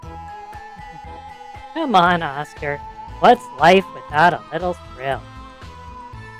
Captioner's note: laughs